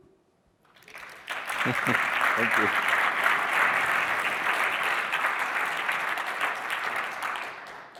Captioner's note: applause